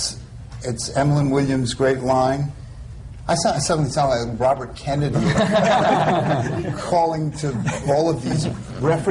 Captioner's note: laughter